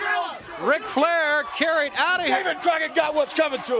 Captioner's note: crowd cheering